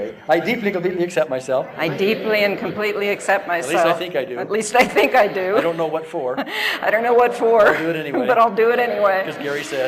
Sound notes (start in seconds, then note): 7.3 laughs